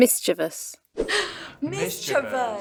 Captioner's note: gasp